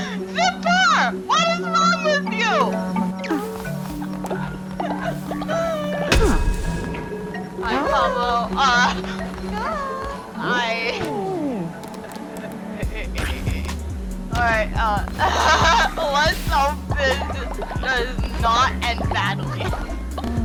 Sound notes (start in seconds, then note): 0.0 laughing; 3.8 even more laughing; 12.8 a "why are you making me do this" sort of laughter; 14.8 trying to contain laughter; 15.0 so. much. laughter. i think is losing it